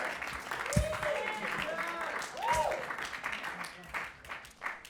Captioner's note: audience clapping